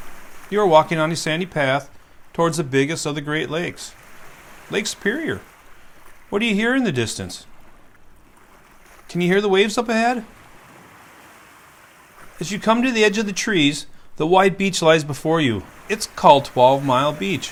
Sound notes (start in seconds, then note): 8.0 quiet waves; 11.8 waves